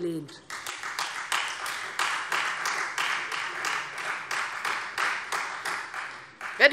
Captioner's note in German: Beifall Freie Demokraten